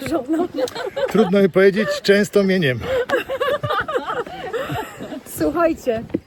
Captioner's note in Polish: śmiech